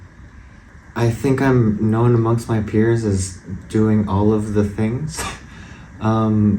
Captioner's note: laugh